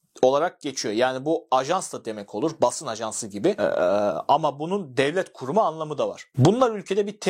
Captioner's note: in Turkish